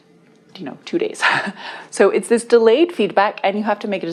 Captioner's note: laughs